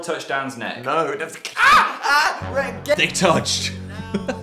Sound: screams; laughs

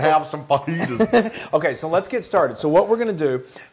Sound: laugh

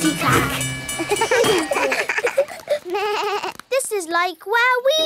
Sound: all laugh

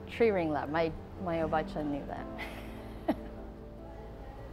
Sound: laughing

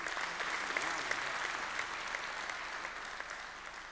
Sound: applause

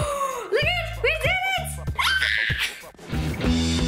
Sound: screams; upbeat music

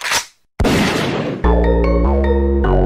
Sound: camera clicking; gun bangs; upbeat music

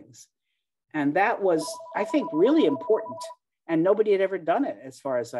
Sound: phone rings in background

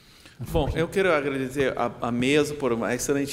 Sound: speaking portuguese

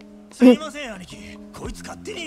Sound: laughs

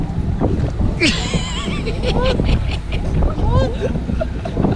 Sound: laughs

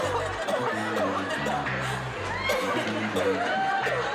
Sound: coughing

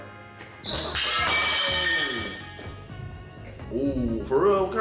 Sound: glass breaking

